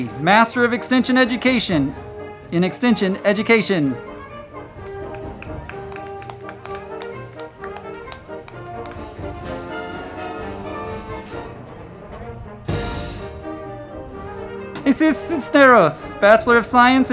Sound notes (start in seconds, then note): 4.7 crowd clapping; 4.9 band music